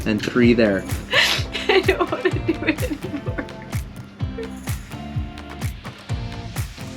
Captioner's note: sobbing